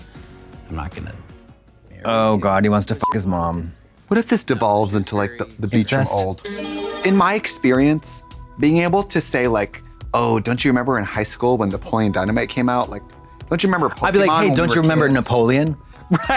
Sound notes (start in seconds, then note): 3.0 beep; 6.4 bright chime